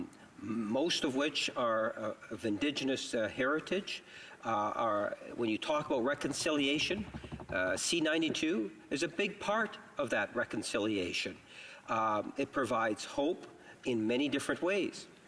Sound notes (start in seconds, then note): none